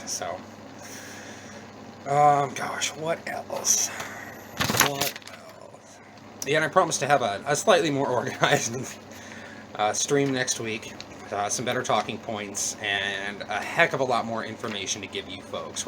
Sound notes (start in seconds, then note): 4.5 notes rustling; 10.2 chuckle